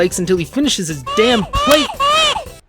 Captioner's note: baby crying intensifies